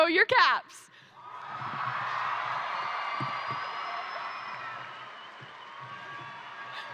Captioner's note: crowd cheering; crowd applauding